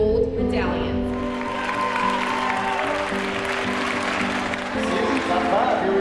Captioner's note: audience clapping